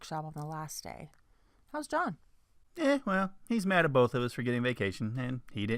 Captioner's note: man's voice